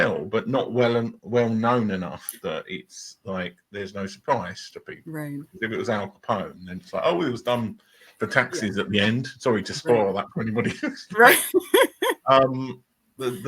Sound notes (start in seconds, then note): 12.3 laughing